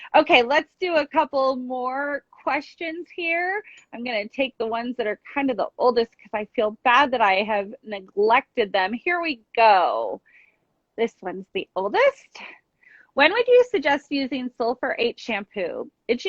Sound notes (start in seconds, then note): none